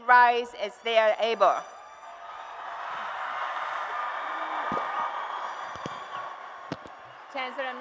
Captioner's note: applause and Cheers